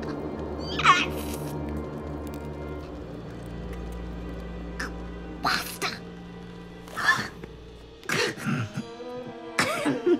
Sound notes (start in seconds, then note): 7.2 coughing